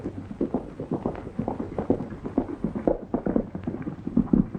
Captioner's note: horses galloping